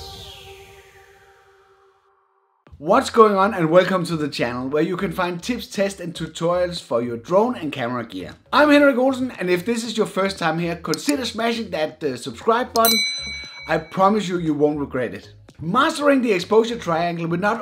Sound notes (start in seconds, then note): 12.8 bell dings